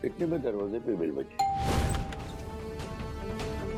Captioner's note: doorbell rings